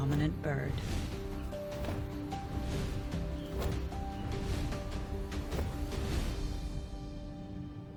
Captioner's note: wings flapping